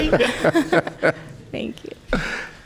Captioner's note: chuckling